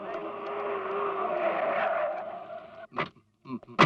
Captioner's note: brakes squeal